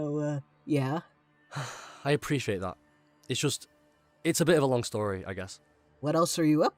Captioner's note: sigh